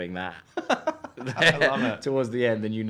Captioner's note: laughing